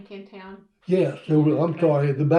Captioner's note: laughter